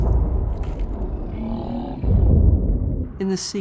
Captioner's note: h'raka groans